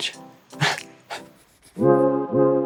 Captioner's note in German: lacht